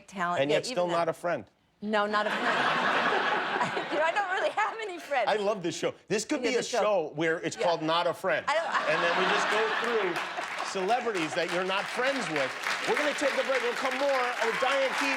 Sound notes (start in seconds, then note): 8.4 laughter